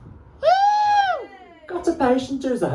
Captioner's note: whoops from the audience